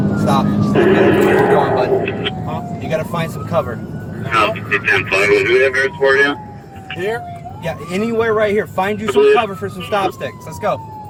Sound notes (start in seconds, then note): 4.2 radio chatter